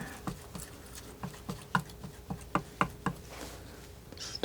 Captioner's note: scratching